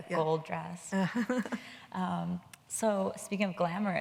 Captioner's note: Anna laughs